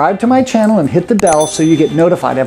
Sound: bell dinging

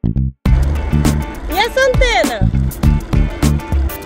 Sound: speaking portuguese

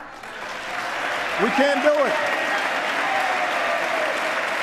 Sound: applause

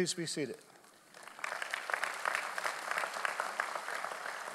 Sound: audience applauds

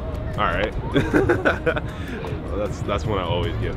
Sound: person laughing

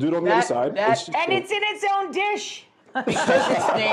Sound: laughing

